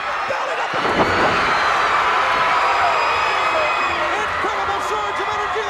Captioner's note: crowd cheers